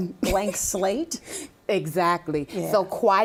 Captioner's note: laughing